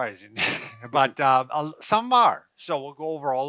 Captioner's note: laughing